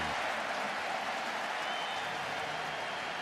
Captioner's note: crowd cheering